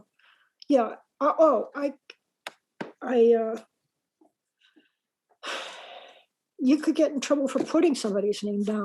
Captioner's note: sigh